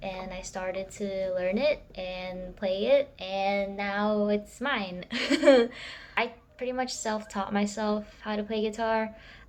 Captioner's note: chuckles